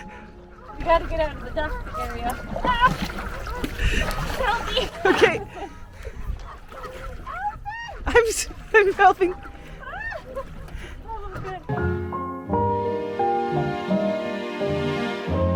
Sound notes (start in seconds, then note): 9.9 laughing